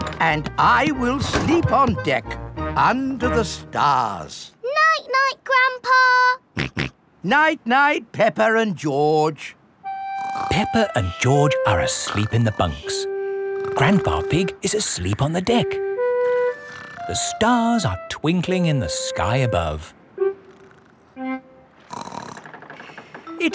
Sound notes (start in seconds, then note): 6.6 snorts; 21.8 snorts